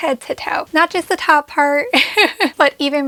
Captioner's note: laughs